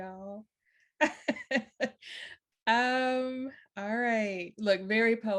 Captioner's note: chuckles